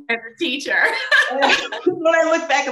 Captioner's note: both laughing